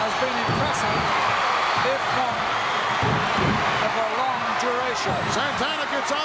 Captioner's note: audience cheering